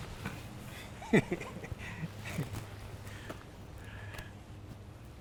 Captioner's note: Errol laughing